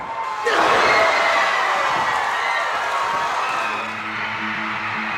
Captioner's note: crowd cheering; upbeat music